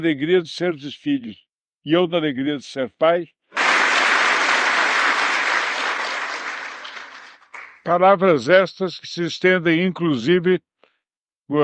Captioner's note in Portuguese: aplausos